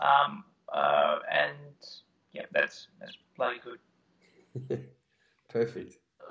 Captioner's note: laughing